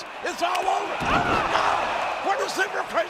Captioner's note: wrestler thudding